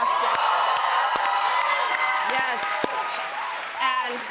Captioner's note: cheers and applause